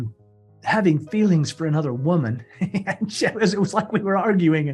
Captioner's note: laughs